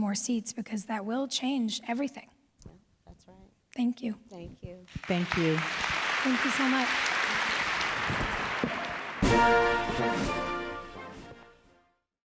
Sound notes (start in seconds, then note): 4.9 applause